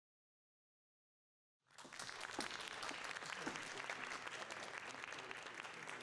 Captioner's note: applause